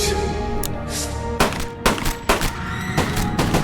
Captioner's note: gun firing; screaming